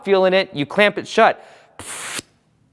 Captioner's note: blows out